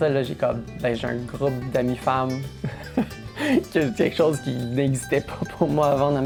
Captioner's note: laughs